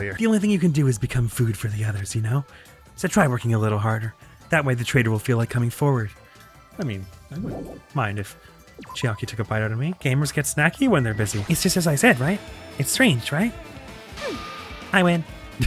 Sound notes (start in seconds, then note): 6.9 mythical sub voice